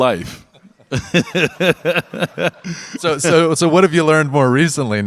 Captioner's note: Dwyane and audience laugh